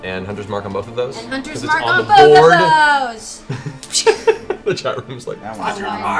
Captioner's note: laughs